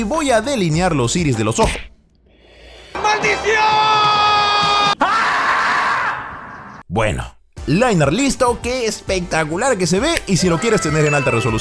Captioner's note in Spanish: grito